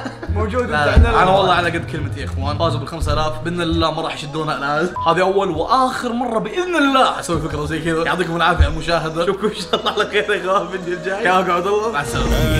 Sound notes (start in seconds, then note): 9.5 laughing